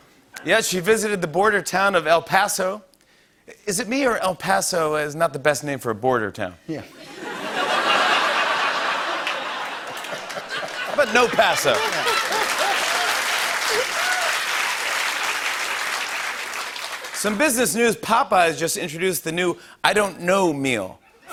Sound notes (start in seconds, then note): 7.0 laughter; 12.2 applause